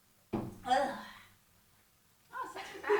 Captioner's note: retching